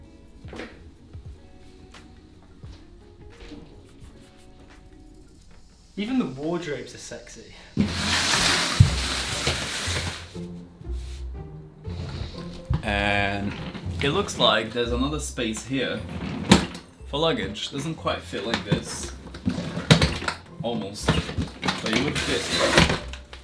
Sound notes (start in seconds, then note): 0.0 soft electronic pop music continues; 7.8 loud rustling